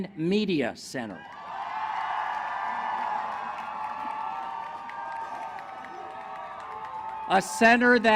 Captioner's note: cheering